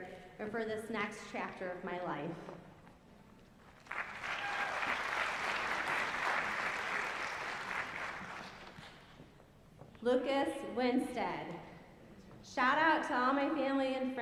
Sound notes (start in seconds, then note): 3.7 applause